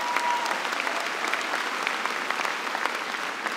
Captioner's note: applause